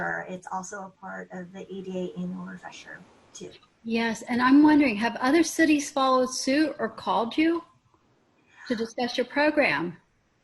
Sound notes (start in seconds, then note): none